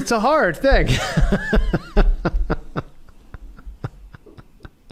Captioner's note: laughter